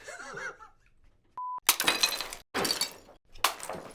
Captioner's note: mug shattering repeatedly